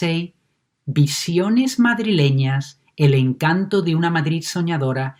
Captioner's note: speaks in foreign language